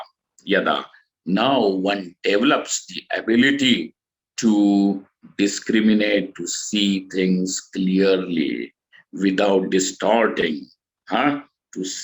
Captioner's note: sanskrit